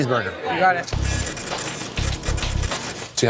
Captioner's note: register clicking